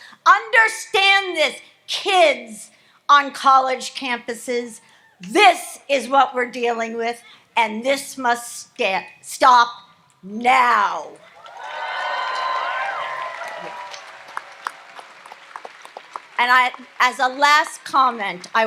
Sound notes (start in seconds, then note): 11.3 audience applauds and cheers